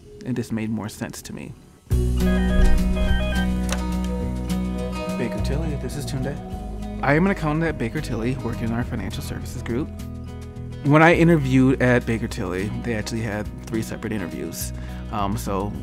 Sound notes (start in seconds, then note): 2.2 phone ringing